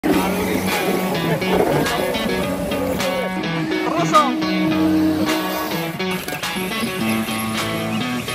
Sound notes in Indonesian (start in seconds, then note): 4.6 suara mobil menggerung